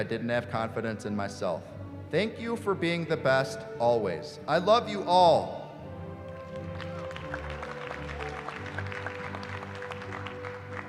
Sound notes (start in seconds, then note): 6.2 applause